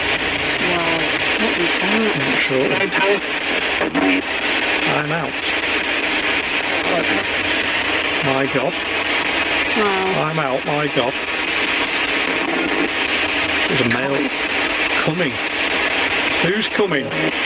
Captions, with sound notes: - Wow, what was that? (Ovilus speaking) - I'm out. My god. I'm out, my god. (Ovilus speaking) It was a male. Coming. Who's coming?